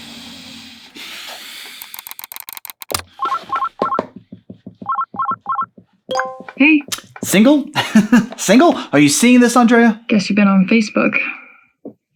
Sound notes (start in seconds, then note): 1.8 computer mouse clicks; 3.0 computer rings